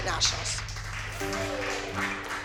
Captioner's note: cheering and applause